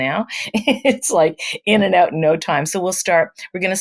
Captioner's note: laughs